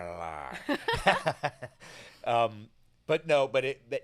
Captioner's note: laughing